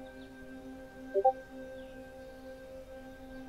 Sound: discord notification sound

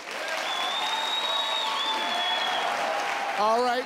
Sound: crowd cheering

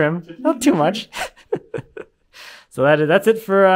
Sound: chuckles

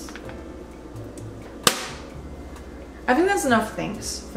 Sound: smacks pasta

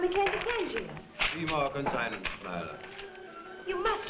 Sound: Tadeus speaking foreign language

